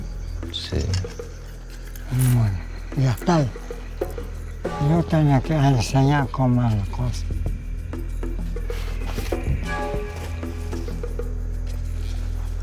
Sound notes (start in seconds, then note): 2.5 speaking Spanish